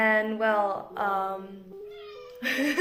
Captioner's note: in English; meowww